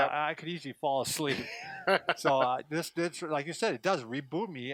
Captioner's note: laughs